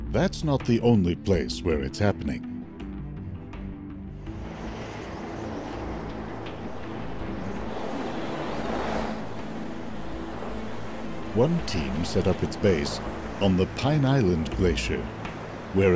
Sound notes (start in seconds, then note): 4.2 wind howling; 4.6 gentle dramatic music